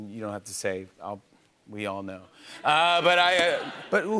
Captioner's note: laughter